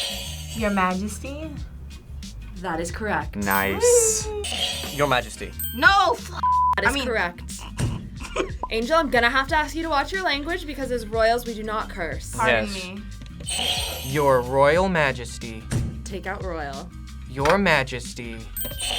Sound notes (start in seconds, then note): 0.1 buzzer rings; 4.4 bell rings; 4.5 buzzer rings; 7.3 laughs; 13.5 buzzer rings